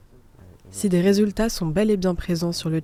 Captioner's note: voice-over